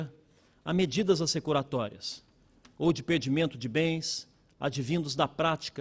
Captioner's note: speaking Portugese